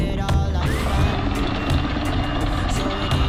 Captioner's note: chain rattling